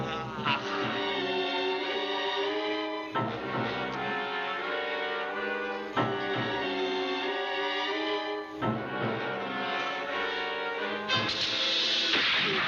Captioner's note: yelling